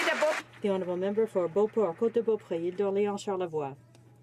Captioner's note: some Applause